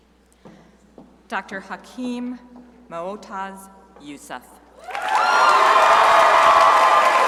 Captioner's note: crowd applauding